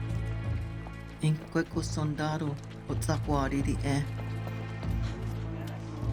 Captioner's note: woman speaking Tewa